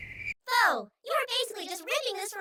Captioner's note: cricket noises